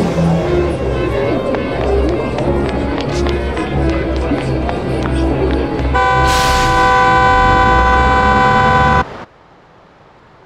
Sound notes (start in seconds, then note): 5.6 horn honking